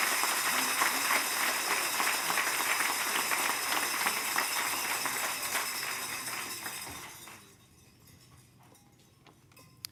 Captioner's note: applause